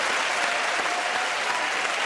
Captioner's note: cheering and applause